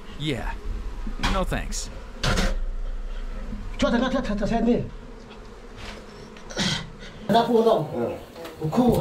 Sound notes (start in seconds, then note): 3.6 man speaking foreign language